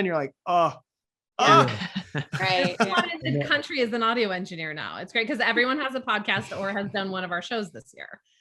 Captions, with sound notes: And you're like, "Oh! Oh!" (group laughs) - Right, yeah. - Everyone in the country is an audio engineer now, it's great 'cause everyone has a podcast or has done one of our shows this year.